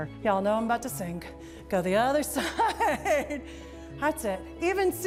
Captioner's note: laughs